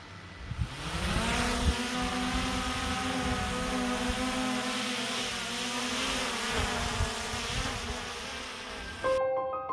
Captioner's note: drone sound